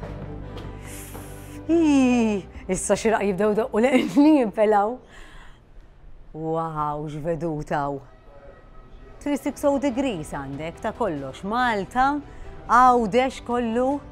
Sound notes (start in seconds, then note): 0.7 gasps